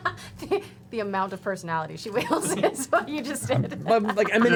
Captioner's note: laughs